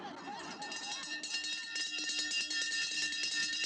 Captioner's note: bell rings